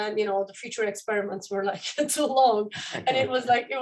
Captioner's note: laughter